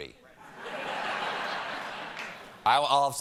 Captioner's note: laughter